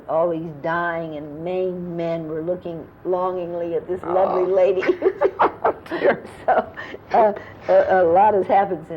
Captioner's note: laughter